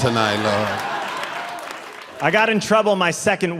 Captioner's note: audience laughing